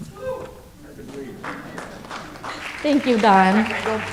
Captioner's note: audience applauds